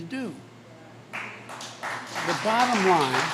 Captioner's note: applause